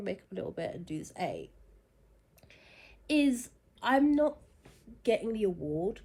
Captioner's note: short pause